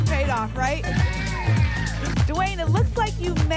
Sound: applause and cheering

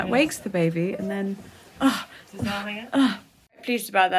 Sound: gasps

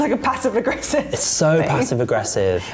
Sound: laughs

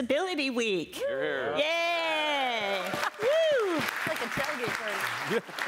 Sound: cheering and applause

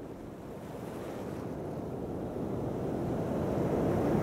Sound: waves crashing

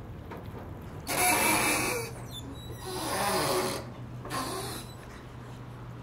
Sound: squeaking/creaking sea vessel

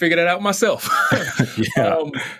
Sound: lauhgter

